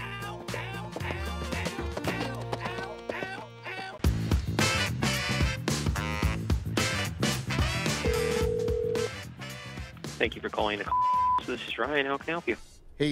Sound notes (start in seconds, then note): 4.2 upbeat funky music; 8.0 phone ringing; 10.9 beeping